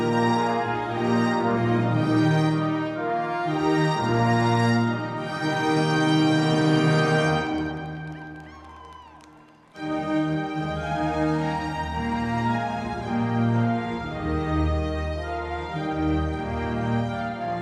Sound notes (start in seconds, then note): 7.4 crowd cheering; 8.7 lively music continues